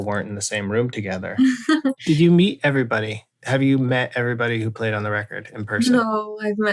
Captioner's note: laughter